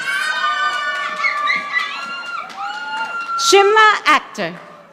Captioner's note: audience applauding